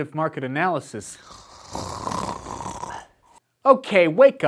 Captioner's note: more snoring